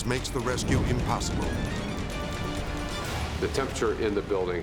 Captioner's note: intense orchestral music; flames whipping